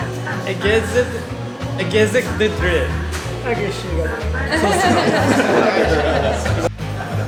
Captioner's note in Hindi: हंसते हुए